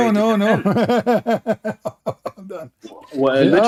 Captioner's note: Ketawa